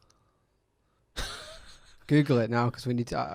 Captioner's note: laughs